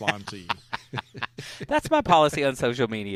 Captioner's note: laughing